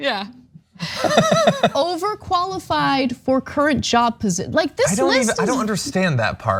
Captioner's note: laugh